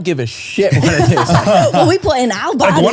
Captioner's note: all laughing